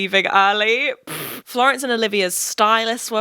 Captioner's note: blows raspberry